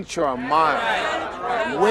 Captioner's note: crowd